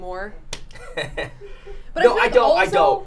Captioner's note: laughs